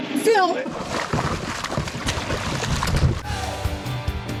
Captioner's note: water splashing; upbeat music